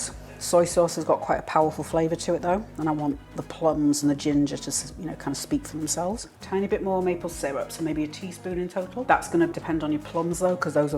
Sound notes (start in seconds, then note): none